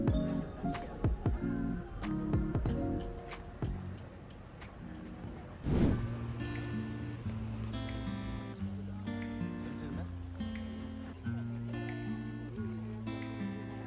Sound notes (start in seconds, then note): 3.5 river flows